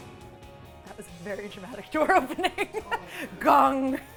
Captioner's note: laughs